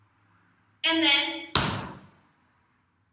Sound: small Stomp

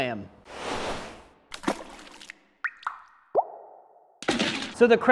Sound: splash and dripping

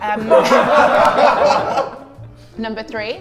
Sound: Sidemen laugh

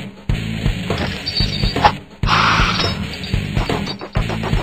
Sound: chain clanging

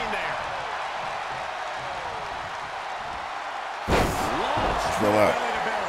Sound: applause

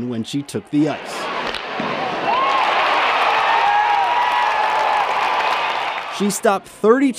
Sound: cheering

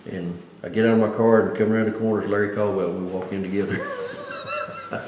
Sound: laughs

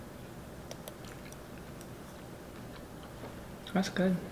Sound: chocolate faintly snapping

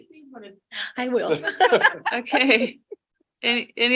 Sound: laughing

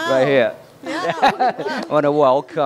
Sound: laughter

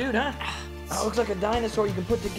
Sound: sighing

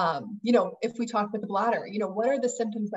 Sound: chattering

